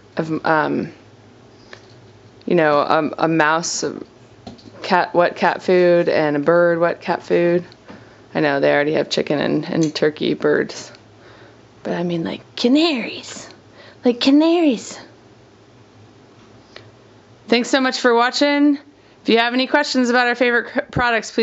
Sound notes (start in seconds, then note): none